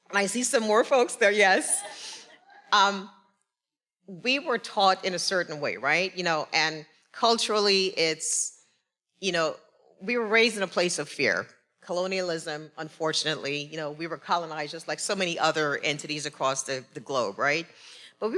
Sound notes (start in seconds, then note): 1.6 attendee cheering